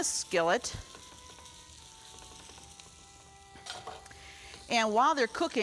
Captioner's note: sizzling sound